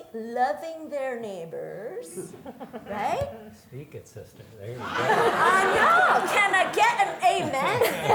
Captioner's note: audience laughter